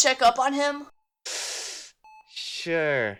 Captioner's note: seethes teeth